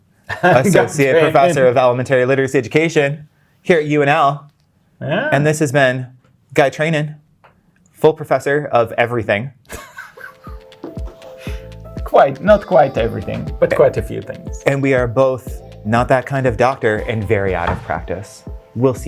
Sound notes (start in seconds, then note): 9.7 guy laughing; 10.1 upbeat ambient music